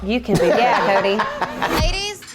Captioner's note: laughing